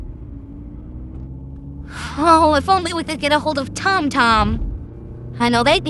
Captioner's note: sighing